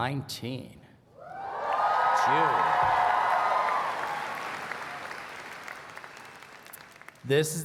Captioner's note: cheering and Applause